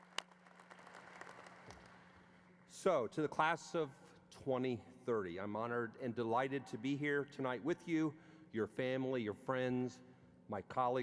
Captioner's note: applause